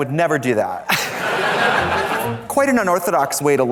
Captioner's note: audience laughs